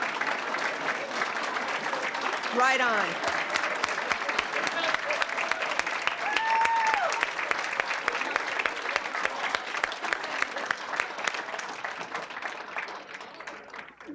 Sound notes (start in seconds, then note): 0.3 applause; 3.7 applause